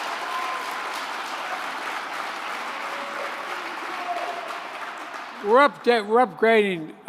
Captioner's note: applause